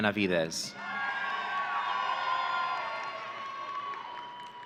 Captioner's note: audience cheering